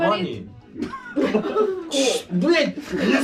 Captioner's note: suppressing laugh failed